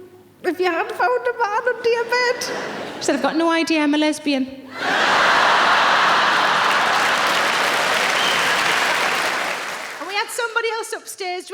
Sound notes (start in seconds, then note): 4.7 audience laughing